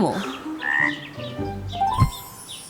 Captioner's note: croaking